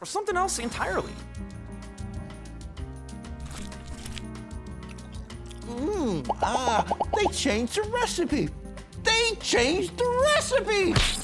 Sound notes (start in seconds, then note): 1.7 delicious chewing